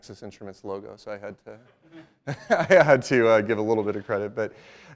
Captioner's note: laughs